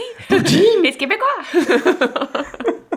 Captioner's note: speaks in foreign language; both laughs